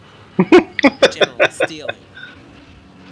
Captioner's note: laughing